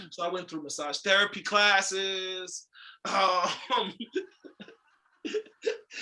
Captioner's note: laughs